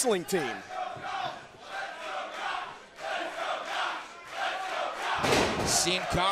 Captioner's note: crowd cheering